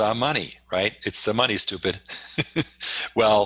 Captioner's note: laughs